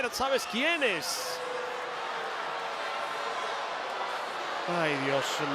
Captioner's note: applause